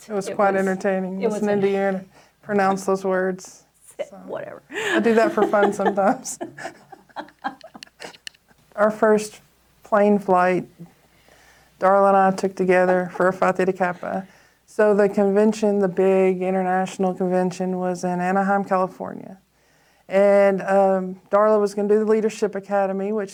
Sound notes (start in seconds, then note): 6.8 both laugh